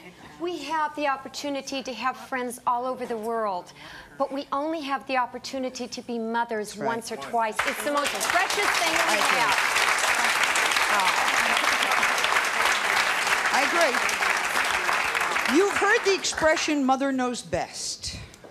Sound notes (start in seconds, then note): 9.4 applause